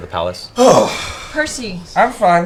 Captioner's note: sighs